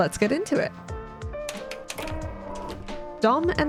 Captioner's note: projector whir